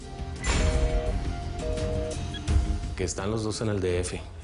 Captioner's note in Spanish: Sonido de teléfono descolgado